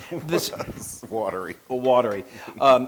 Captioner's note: laugh